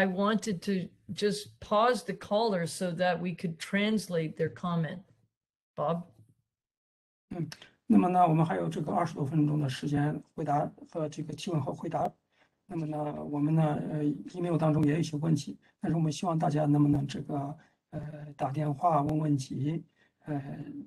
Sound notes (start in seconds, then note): 11.1 speaks in Mandarin